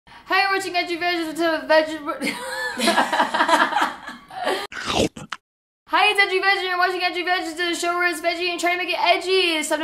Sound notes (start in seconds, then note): 2.3 laughing; 4.7 chomping